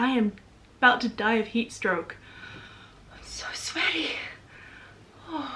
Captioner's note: gasp